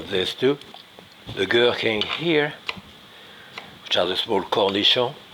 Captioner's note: knife chopping